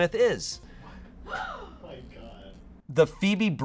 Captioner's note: audience gasps